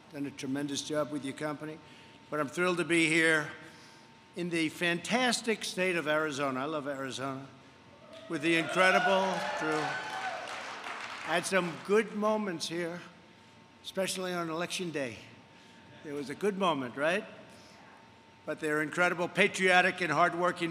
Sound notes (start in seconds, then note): 8.5 applause